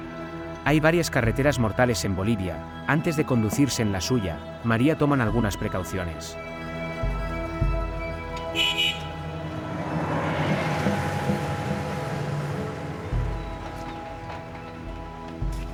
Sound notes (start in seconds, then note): 8.4 car horn honking